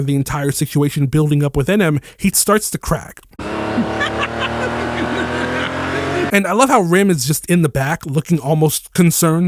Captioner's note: laughter